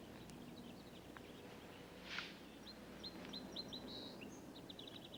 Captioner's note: birds chirping